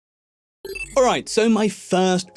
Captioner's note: logo chiming